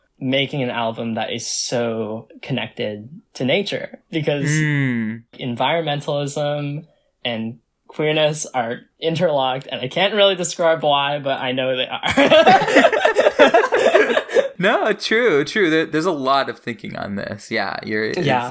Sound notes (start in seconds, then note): 12.0 both laugh